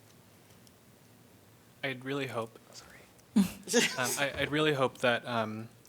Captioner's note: laughter